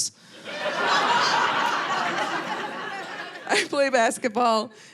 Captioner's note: audience laughing